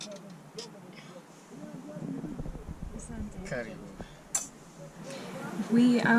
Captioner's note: speaking in foreign language